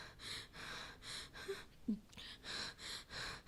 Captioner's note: gasps